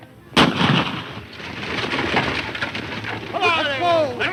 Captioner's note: loud gunshot